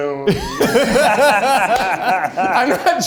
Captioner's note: group laughs; laughs